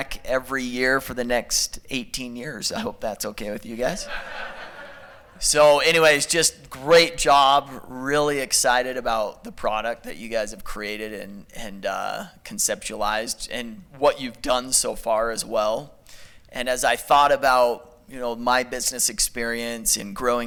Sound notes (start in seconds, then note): 4.0 laughter